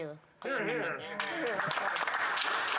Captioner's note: speaking French